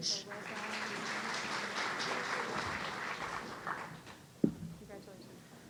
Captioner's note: audience applauding